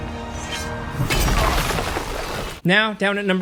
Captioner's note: ground slamming